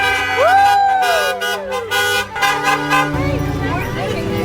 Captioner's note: bocinas de coches sonando; gente aplaudiendo; música reflexiva; habla débilmente